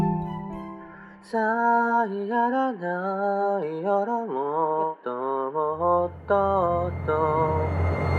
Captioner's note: hums melody